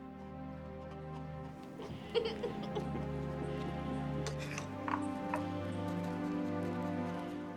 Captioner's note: laughing